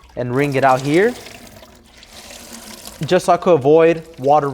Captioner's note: water splashing